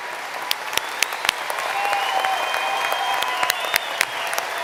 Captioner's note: applause